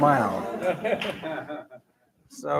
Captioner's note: laughter